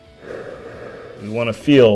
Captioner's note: upbeat music; exhales